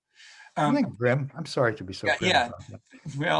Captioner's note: speaks faintly